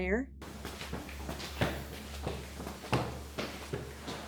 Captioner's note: footsteps tapping